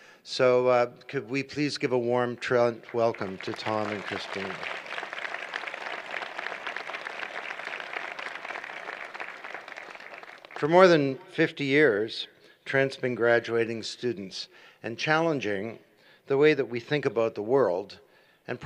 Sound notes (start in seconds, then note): 4.5 applause